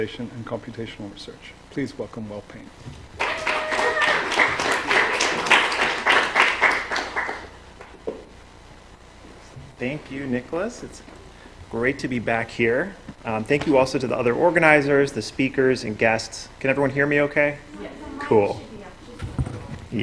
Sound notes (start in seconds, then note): 3.1 applause